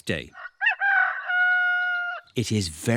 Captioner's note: roster crows